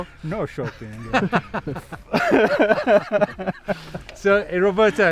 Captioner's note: laughing